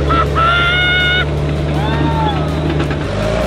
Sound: cheering

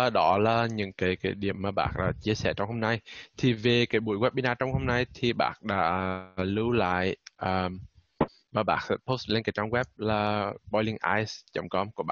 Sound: speaking Vietnamese

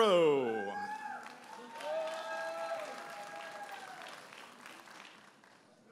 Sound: audience applauding and cheering

